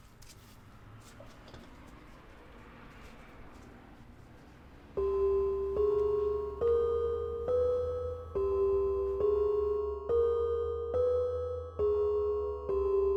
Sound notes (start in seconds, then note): 4.9 spooky bells